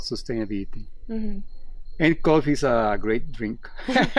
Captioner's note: laughs